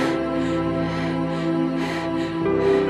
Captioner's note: Heather gasping for air